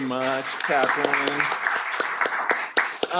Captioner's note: applause